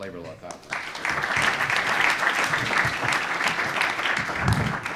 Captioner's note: audience applauds